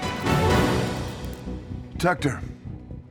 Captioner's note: light buzzing